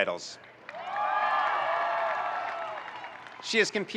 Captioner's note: audience cheering and applauding